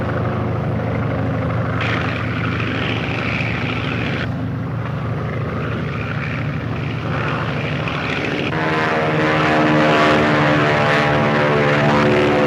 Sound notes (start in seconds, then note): 2.5 airplanes buzzing; 8.0 airplane buzzing